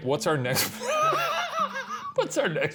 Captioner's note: laughing